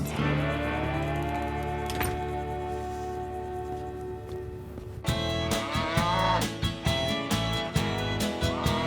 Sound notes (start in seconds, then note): 5.7 cow moos